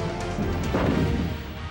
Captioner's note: cannon shots